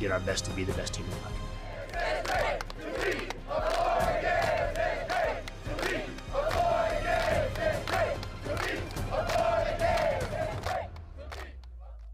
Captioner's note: chanting